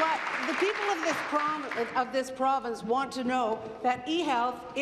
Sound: applause

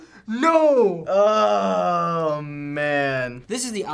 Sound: groans

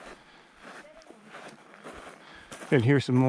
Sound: mom speaking distantly

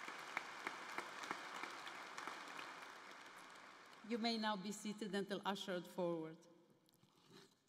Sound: applause

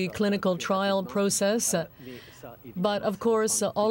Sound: speaking french

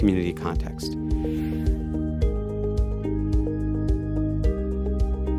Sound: air whooshing

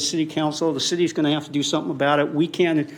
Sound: none

